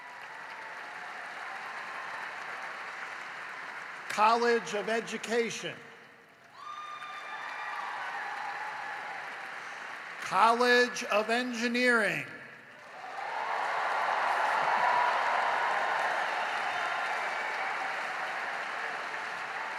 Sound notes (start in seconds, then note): 0.0 applause; 5.1 cheering and applause